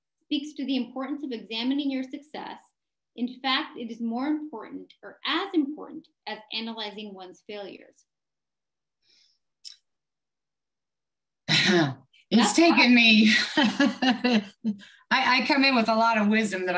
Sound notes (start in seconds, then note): 13.3 laughs